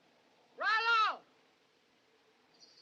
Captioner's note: man Shouts